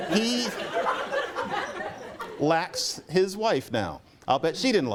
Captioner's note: laughter